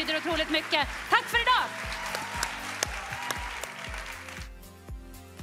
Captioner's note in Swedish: Jubel och applåder